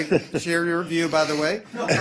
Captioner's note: laughter